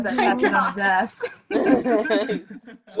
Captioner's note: ALL laugh